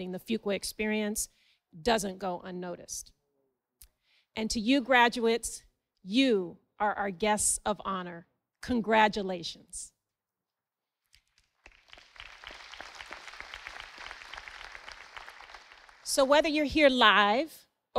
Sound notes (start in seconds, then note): 11.2 audience applauding